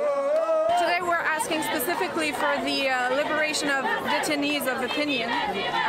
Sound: chanting

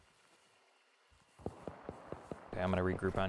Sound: distant rapid gunshots

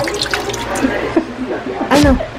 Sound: laughs

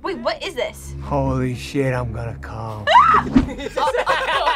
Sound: screams; group laughs

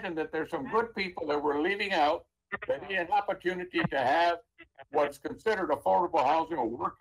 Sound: ~interference~

